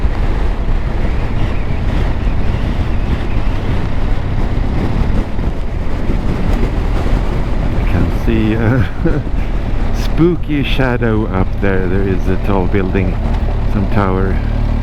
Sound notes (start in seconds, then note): 1.4 whining wind; 7.7 haha